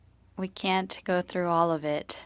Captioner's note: speaking French